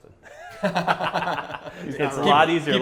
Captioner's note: laughs